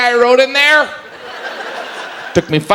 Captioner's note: audience laughs